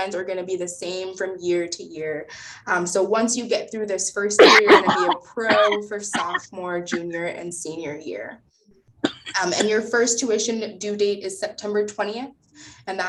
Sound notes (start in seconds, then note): 4.4 coughing